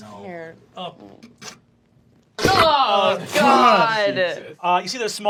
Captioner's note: loud and terrible squelching